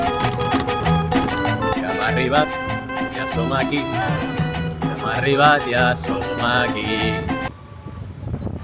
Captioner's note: in catalan